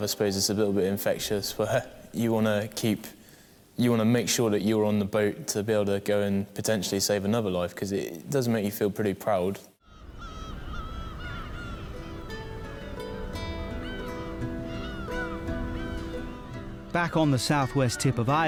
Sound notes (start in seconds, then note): 10.3 seagulls squawk; 11.8 soft music